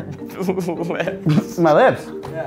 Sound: laughs

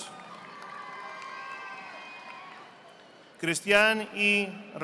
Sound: audience applauding

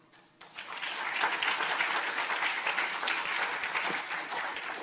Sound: audience applauding

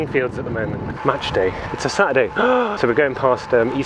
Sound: inhales

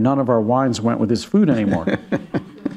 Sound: laughs

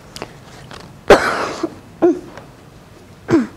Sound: cough

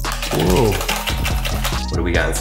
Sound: upbeat music; box rattles

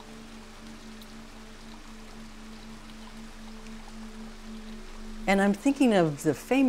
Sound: drizzling

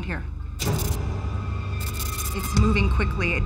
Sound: skittering

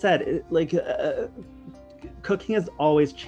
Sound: laughs

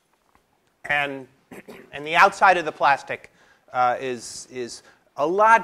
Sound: cough

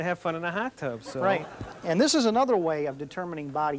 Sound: audience laughing

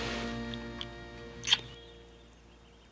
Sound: smooch

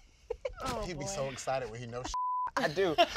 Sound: beep

